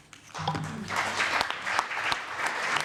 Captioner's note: applause